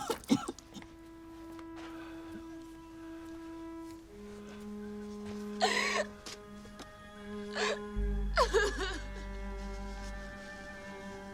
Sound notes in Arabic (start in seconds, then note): 0.3 تشغيل موسيقى حزينة; 5.0 يستمر النحيب